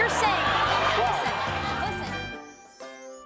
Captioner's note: audience clamoring